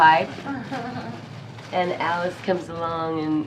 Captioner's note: laughs